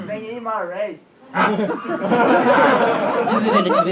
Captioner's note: audience laughs